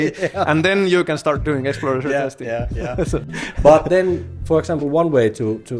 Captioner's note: laughter